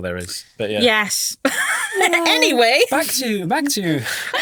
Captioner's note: laughing